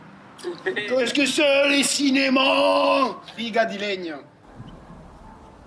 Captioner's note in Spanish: ambos ríen; hablando idioma extranjero